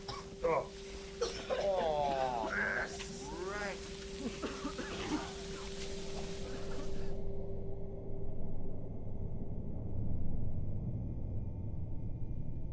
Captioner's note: coughing